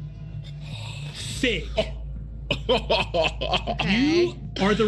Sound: laughs

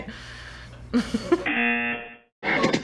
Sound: chuckling; buzzer; music builds

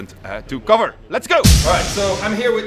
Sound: poof!

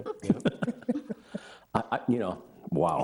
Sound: people chuckling

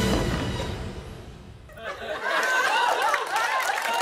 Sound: laughter; cheers and applause

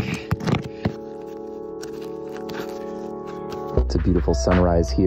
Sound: rustling sound

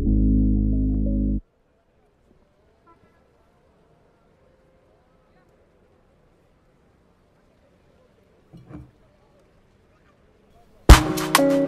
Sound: silence

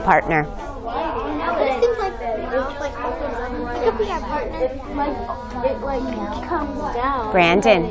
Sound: student talking among them selves

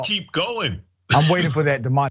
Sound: laugh

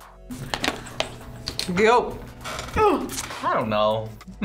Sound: grunts

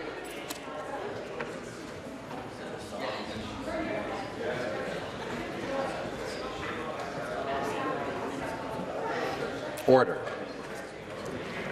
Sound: conversation din

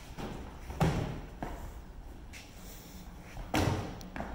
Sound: gentle thud

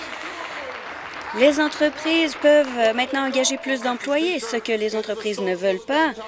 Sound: applause

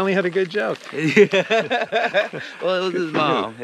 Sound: laughs

